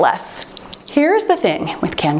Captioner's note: timer beeps